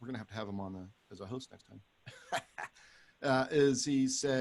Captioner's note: laughs